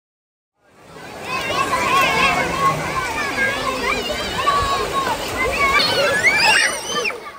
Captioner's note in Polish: Szum morza